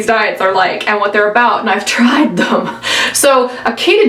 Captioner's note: laughs